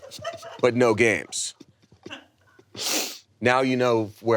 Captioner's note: people laughing